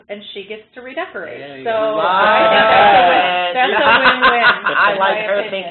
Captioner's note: laughter